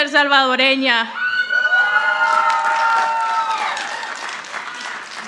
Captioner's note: audience applauding